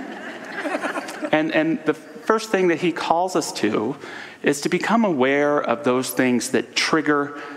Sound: audience laughter

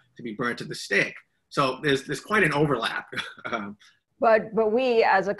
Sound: laughs

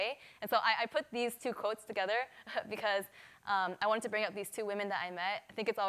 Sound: none

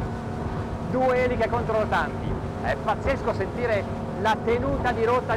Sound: speaking in foreign language

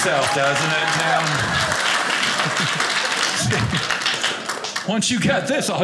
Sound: audience applauding

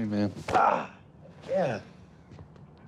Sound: Rufus grunts

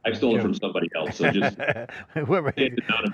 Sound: laughs

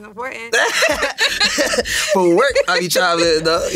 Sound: both laugh

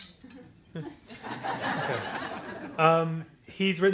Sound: audience laughs

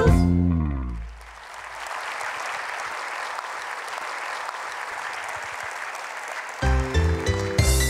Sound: applause

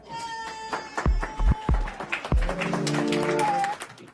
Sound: applause

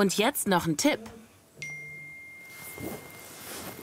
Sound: cell phone notification tone

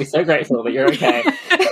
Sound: laughing

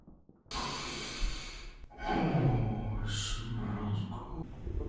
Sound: exhale and a sound of deep pleasure

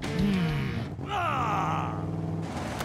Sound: Bone Shaker groans

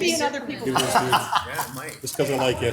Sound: council member laughs

